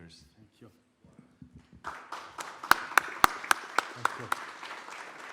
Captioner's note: audience claps